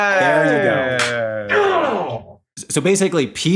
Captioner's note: grunts